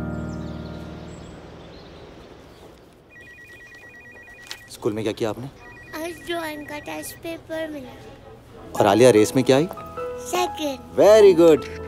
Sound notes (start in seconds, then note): 3.0 Phone ringing